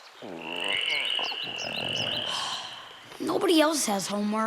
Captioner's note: croaking